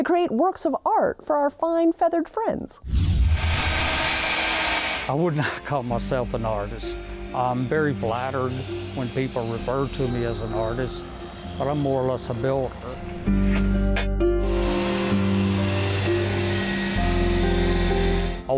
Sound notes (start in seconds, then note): 3.1 saw buzzing; 15.2 saw buzzing